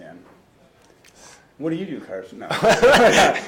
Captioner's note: laughing